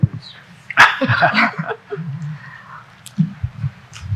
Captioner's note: people laughing